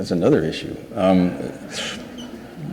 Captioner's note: audience laughs